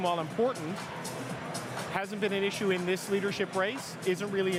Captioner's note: none